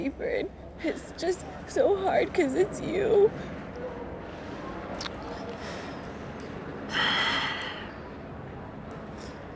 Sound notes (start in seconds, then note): 6.5 sighs